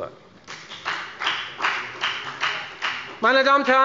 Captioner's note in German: Beifall bei der FDP